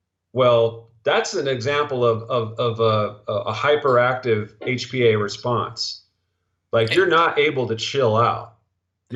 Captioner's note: stuttering